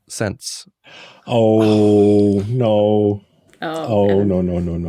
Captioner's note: scoffs